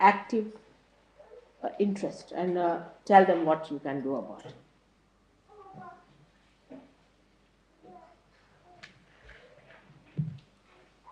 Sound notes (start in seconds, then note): none